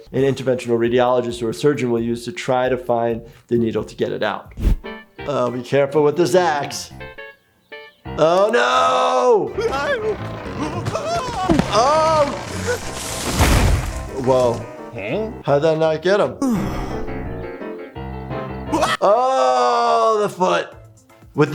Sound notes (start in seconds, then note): 13.2 tree thud; 16.4 sigh of relief